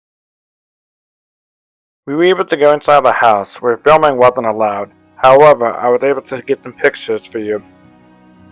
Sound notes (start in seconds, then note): 0.0 total silence; 2.0 voiceover; 8.0 soft music